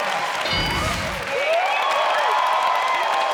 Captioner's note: audience cheers; ding sound; audience cheers